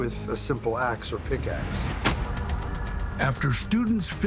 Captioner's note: ax thuds